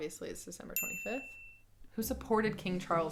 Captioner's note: bell dings